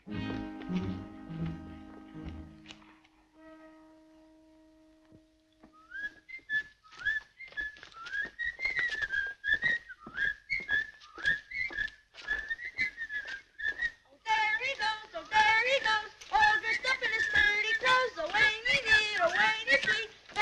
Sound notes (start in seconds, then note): 0.0 slow paced music; 5.7 boys whistling